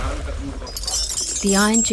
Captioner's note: iron chains clanking